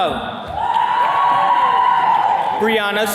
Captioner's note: attendees cheering